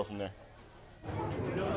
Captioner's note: crowd chattering